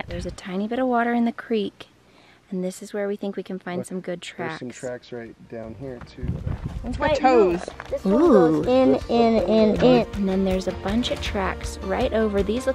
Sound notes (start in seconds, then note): 9.7 kids chatter